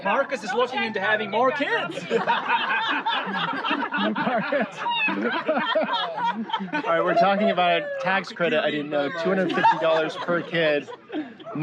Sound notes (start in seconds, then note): 1.7 laughter